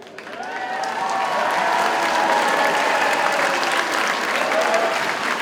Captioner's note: audience cheers and applauds